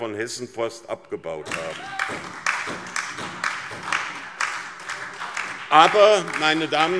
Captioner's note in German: Lebhafter Beifall SPD und DIE LINKE